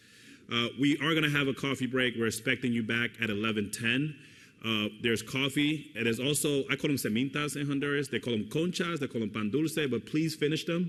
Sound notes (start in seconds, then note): 7.0 foreign language